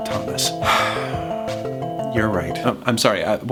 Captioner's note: sighs